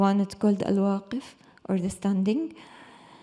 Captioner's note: speaks in Arabic